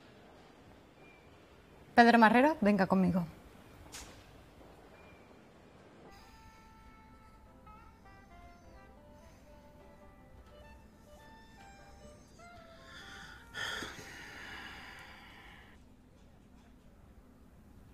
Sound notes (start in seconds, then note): 12.6 sighs